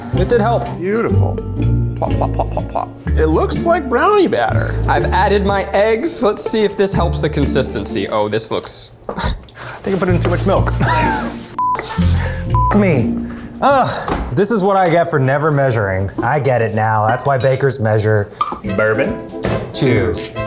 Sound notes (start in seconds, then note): 10.5 laughs; 12.3 beeps